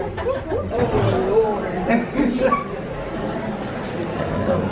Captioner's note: students chattering